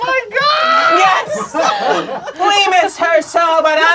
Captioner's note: crowd laughing